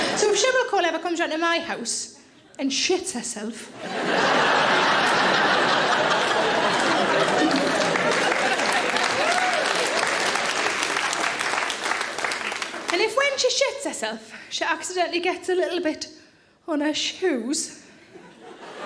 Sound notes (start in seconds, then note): 3.7 audience laughing; 5.0 audience applauds